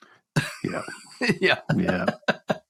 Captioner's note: laughs